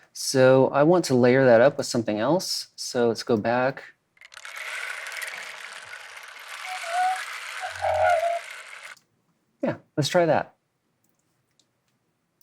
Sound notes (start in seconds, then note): 4.7 animal calling